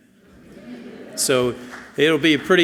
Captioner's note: audience chuckles softly